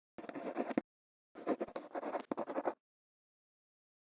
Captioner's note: quill scratching